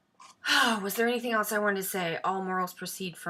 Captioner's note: sighs